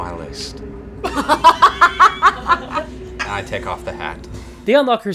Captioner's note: laughter